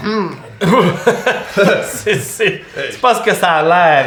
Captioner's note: embarrassed laughter